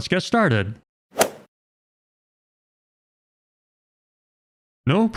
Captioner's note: golf ball hit sound effect